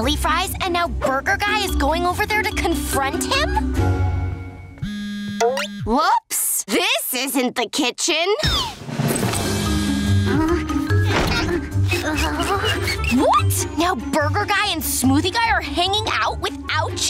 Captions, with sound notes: and now burger guy is going over there to confront him? [buzzing] Whoops, this isn't the kitchen. [buzzing] What?! Now burger guy and smoothie guy are hanging out without you?